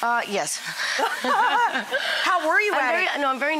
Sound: both laughing

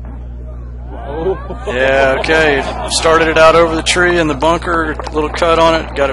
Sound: crowd roar

